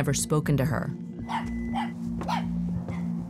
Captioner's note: dog barking